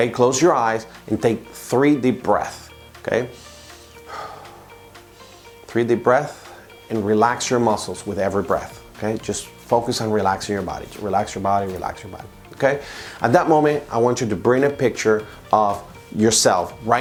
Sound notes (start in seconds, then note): 3.3 breathing deeply